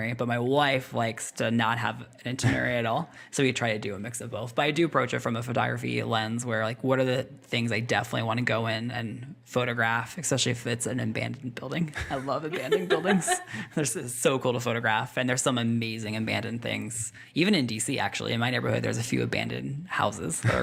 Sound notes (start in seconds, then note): 12.0 laughs